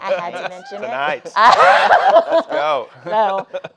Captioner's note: laughing